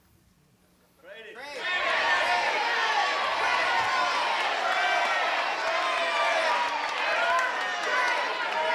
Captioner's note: crowd chatter